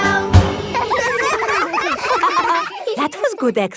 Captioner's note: all giggling